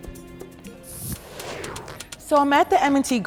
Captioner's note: graphics whooshing